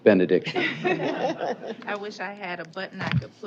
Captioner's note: laughter